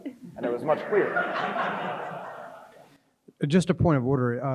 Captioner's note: crowd chuckles